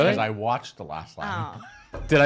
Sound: laughs

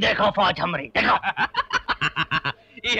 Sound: laughing

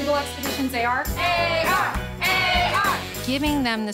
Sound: chanting

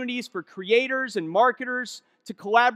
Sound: none

